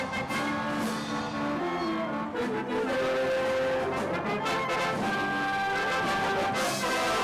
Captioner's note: cheers and applause